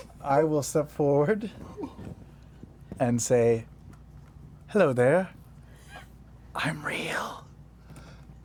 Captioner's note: whispers